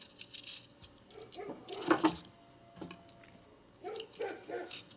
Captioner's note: dog barking